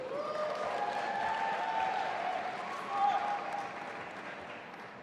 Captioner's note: audience applauding